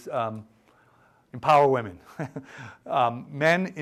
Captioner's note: chuckles